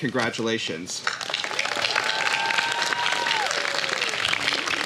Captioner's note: applause